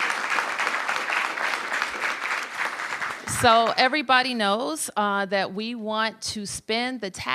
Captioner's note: applause